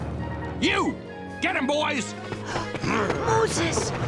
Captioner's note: gasps